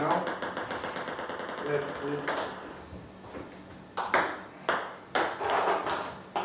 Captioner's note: ball ping pong hitting